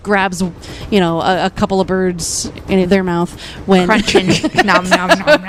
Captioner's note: laughs